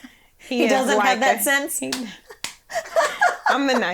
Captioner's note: laughs; laughs